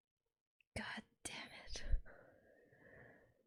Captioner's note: whispers